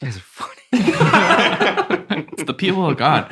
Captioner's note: all laughing